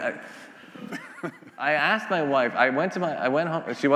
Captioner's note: laughing